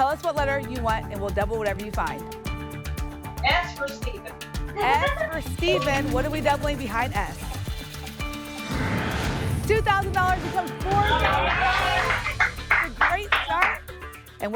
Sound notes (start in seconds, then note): 8.5 whoosh; 10.9 applause and cheering